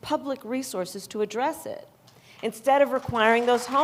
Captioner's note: applause